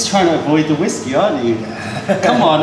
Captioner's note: laughter